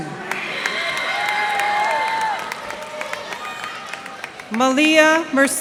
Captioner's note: cheers and applause